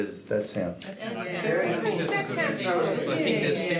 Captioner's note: murmurs of agreement from the other jurors